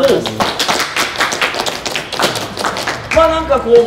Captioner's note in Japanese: 拍手